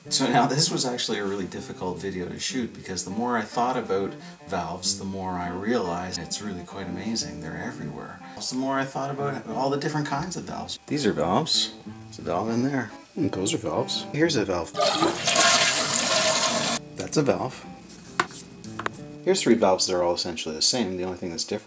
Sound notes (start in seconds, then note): 14.7 flushes